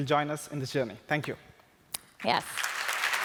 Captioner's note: applause